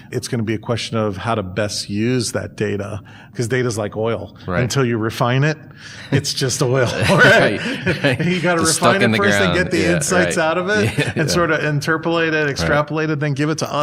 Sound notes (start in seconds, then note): 6.8 chuckles